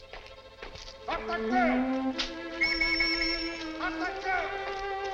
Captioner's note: shouting and police whistle blowing